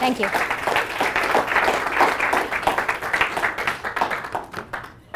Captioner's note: applause